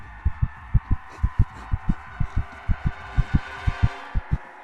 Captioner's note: flatline beep